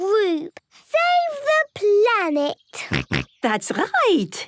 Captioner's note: snorts